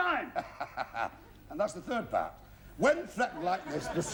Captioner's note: chuckles